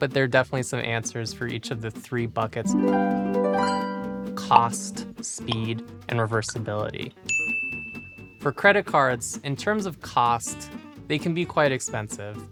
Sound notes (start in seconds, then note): 2.6 harp music; 7.3 ding